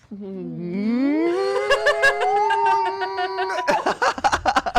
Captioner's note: both squealing